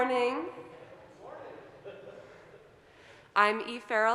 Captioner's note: laughs